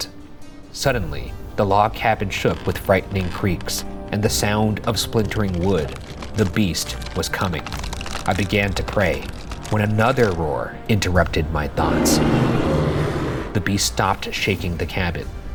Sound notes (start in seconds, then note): 11.6 creature roars